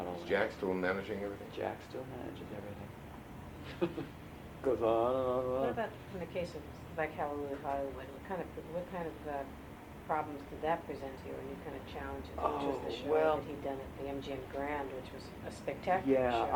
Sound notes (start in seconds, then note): 3.6 laughs